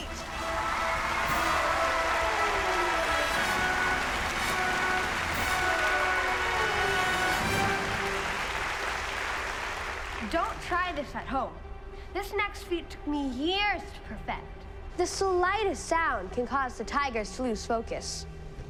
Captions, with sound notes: (crowd cheering) (dramatic exciting music) Don't try this at home. This next feat took me years to perfect. The slightest sound can cause the tigers to lose focus.